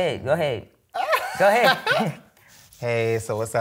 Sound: laughs

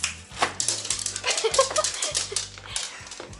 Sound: laughter

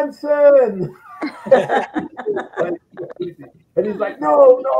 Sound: all laughing

